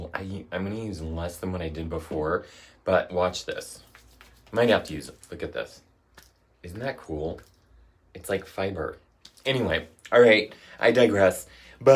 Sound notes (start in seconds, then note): 3.6 hands rub together; 6.2 claps hands softly